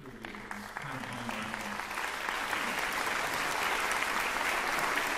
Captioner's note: applause